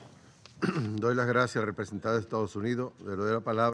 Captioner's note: in Spanish